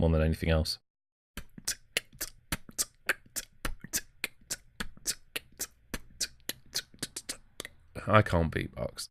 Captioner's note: beatboxing